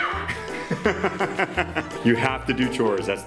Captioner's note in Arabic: يضحك